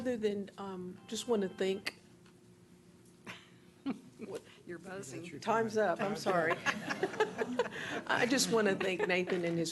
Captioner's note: laughing